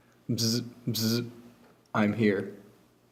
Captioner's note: buzzing noise